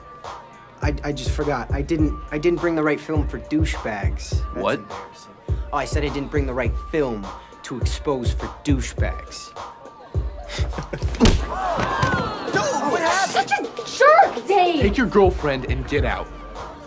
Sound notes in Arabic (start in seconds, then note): 10.8 الحشد يئن